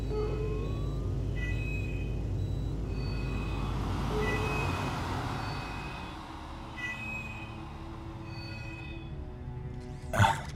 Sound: medallion Beeping

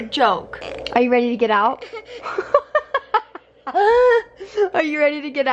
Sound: laughs

